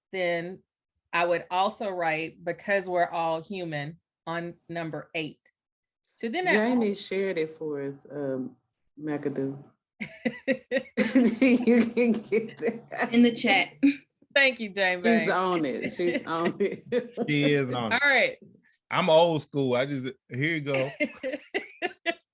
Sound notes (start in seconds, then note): 10.0 laughter